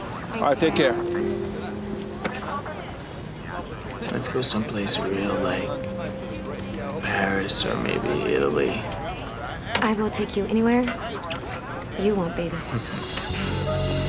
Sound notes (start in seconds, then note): 12.5 chuckles